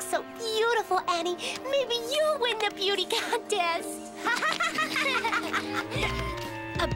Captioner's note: laughter